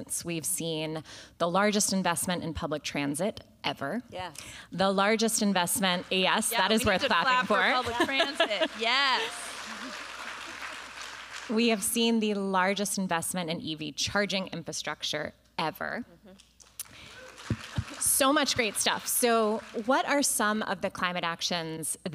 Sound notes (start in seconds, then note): 6.0 applause; 16.7 applause